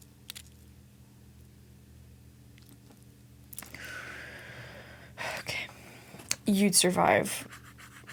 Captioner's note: sighs